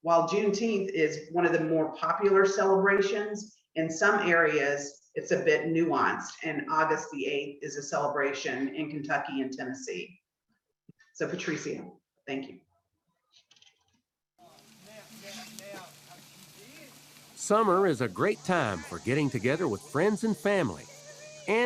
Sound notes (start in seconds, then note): 14.6 chattering